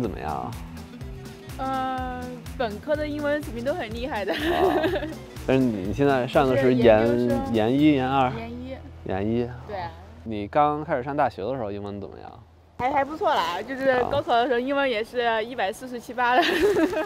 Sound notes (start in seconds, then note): 4.2 laughter; 5.8 speaking in foreign language